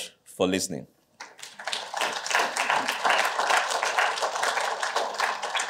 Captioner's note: applause